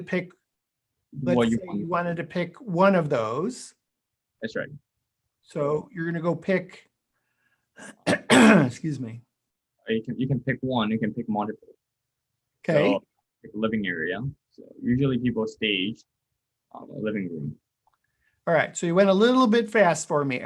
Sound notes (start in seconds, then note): 7.8 clears throat